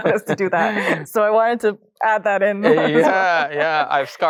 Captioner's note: both laugh; laughs